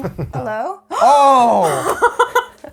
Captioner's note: laughing; gasp!